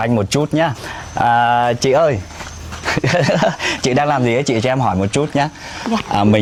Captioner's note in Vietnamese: tiếng cười